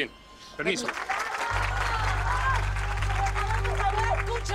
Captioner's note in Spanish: Aplausos